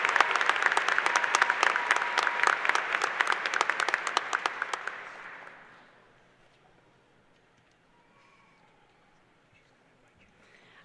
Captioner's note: applause